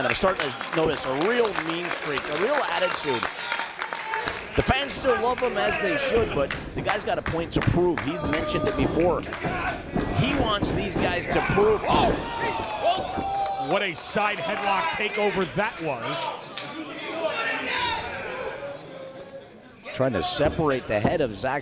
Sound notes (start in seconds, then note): 3.7 applause; 16.7 applause